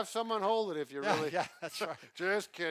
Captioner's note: laughs